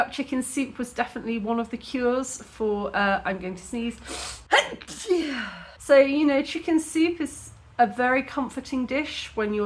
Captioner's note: sneezing